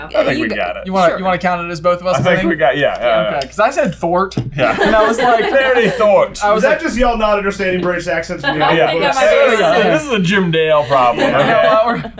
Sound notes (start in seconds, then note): 4.6 laughter